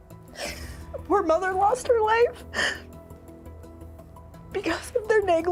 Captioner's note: sobs